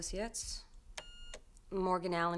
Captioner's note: beeping